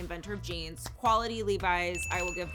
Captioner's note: bell ringing